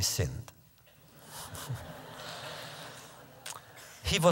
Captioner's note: laughter